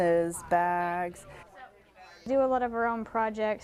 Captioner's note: group talking